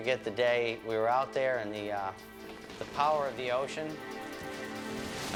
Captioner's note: wood creaking; wood crashing